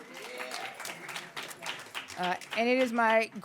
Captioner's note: audience applauding